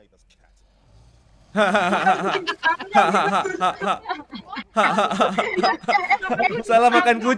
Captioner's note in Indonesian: Ketawa